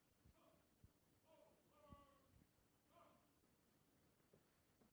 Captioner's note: voiceover